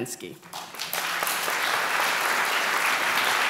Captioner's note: applause